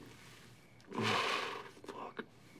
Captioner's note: groans